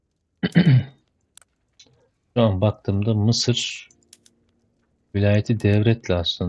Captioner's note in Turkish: boğazını temizler